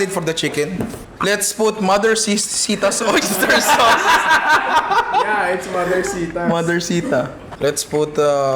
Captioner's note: laughter